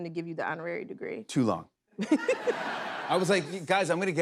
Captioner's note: laughter